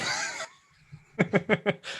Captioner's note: laughter